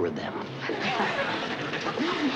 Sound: laughter

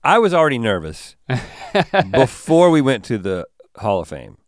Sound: chuckles

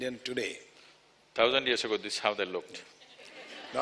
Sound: laughter

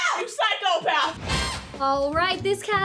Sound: dramatic noise

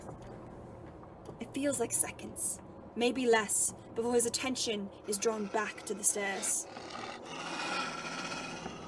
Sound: Moony snarls

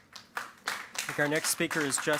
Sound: applause

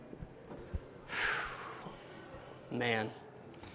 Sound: sighing

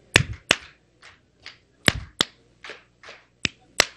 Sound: clapping

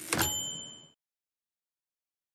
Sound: typewriter dings

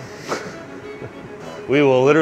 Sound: laughing

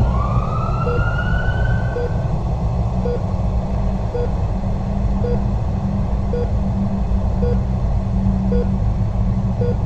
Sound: all noise stops except for heart monitor

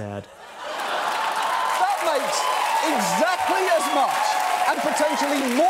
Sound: audience cackling

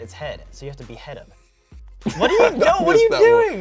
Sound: laughs

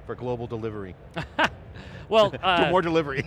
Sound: laughs

